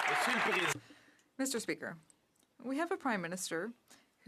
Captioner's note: some Applause